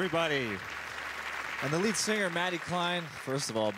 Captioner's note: applause